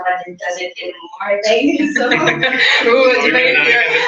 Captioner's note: laugh